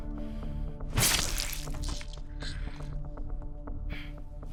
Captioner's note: breathing loudly